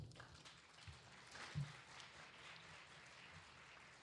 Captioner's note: clapping